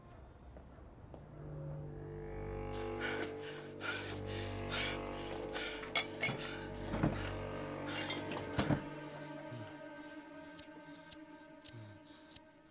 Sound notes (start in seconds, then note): 4.7 panting